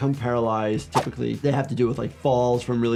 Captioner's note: graphics swishing